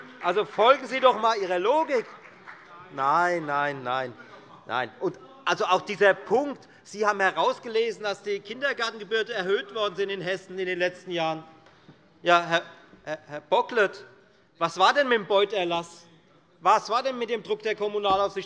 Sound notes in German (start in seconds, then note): 3.0 Beifall bei der FDP